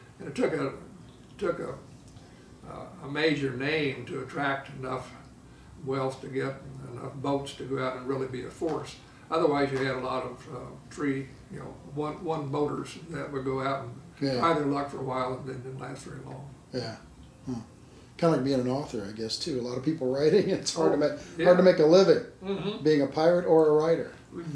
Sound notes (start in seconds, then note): 20.6 laughs